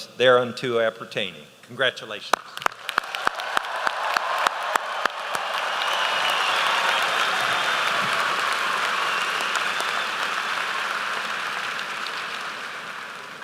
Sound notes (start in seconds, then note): 4.4 applause